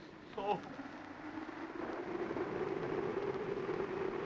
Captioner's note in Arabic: هبوب الريح